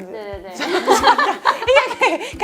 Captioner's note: ahahahaha